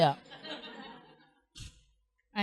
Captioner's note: laughter